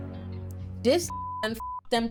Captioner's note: dramatic music; beep